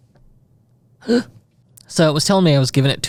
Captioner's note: instructor gasps